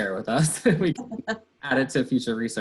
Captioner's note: laughter